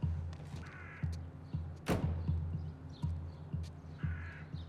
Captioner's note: suspenseful music; car door slams